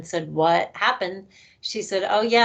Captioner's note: none